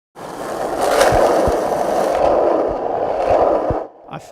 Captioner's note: skateboard rolling